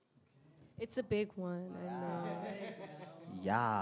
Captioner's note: laughter